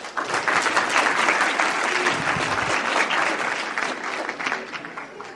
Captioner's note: audience applauding